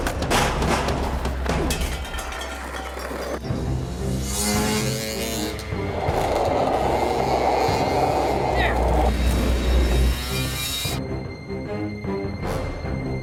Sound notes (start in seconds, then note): 0.2 motorcycle crashes; 4.0 motorcycle revving; 5.8 skateboard rolling; 9.5 intense music continues